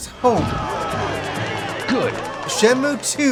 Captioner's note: game audio